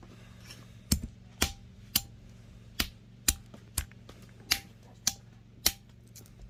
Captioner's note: smashing walnuts